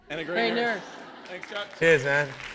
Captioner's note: laughter